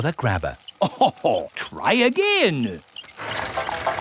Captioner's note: chuckles